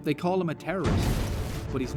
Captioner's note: boom